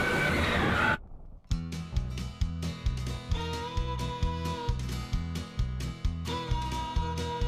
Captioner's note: broken audio